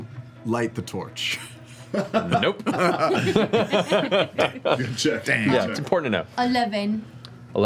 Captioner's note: laughs